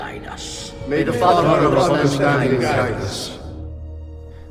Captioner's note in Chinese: 齊聲